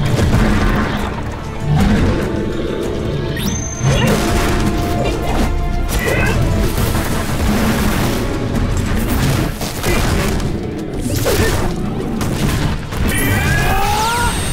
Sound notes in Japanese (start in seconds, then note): 1.5 咆哮